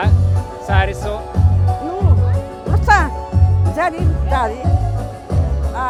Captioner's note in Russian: по-русски